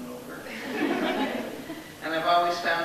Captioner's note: laughs amusingly